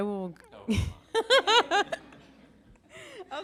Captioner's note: laughter